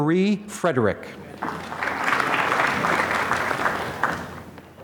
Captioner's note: applause